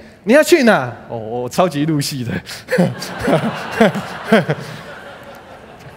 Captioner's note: laughter